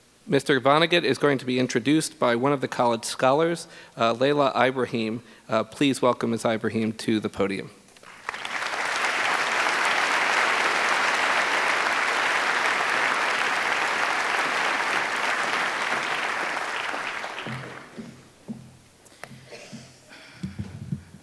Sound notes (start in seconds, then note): 8.0 applause